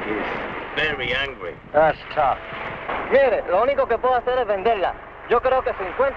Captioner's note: man speaking in Spanish